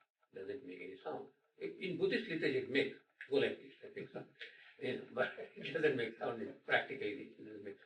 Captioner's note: snaps fingers